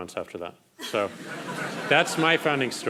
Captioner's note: crowd laughing